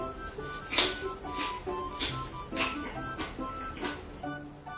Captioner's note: crunchy sound